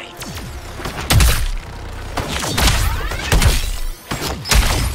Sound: blows landing

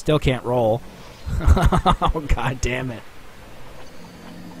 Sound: chuckling angrily

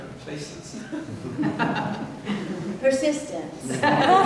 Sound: laughter

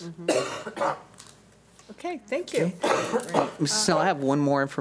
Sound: coughing

